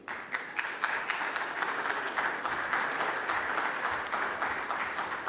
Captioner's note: audience applause